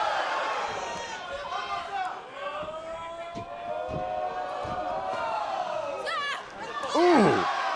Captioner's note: crowd chatter